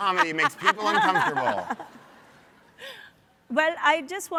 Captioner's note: audience laughs